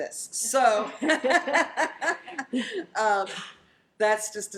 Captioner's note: laughter